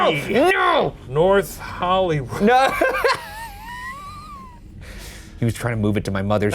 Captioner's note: laughing